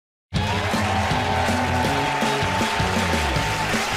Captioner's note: cheers and applause